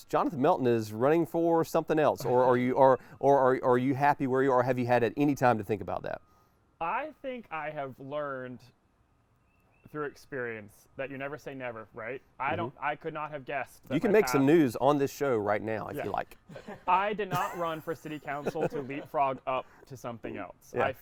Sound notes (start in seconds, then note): 17.3 laughs